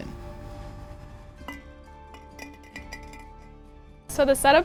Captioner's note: object clinking